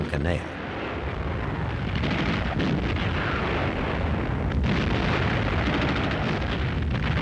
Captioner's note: explosions; gunfire